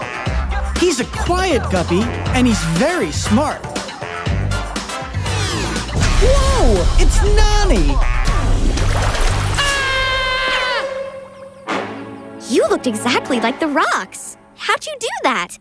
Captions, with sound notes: He's a quiet guppy, and he's very smart. Whoa. It's Nonny. [screaming] You looked exactly like the rocks. How'd you do that?